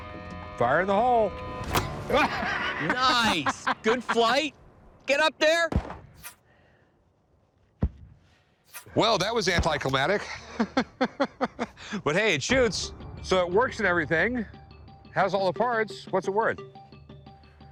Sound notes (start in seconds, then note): 2.0 laughs; 10.2 laughs